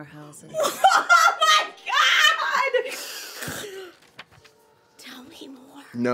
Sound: laughs loudly

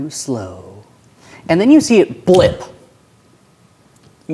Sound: regular voice; snaps

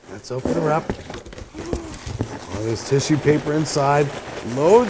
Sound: gasp

